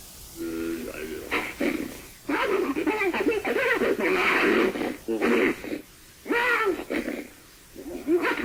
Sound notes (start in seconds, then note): 2.2 creature vocalizing